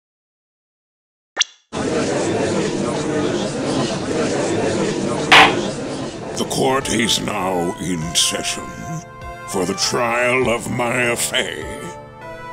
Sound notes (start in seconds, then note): 1.8 gallery chattering; 5.3 gavel slams!